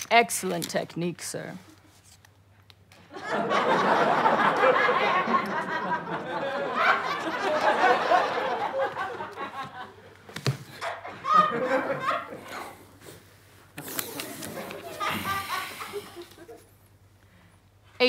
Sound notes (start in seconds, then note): 12.7 quietly; 14.0 audience laughter